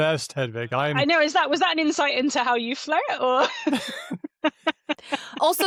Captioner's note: laughter